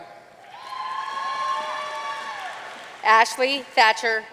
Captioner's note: audience cheering and applauding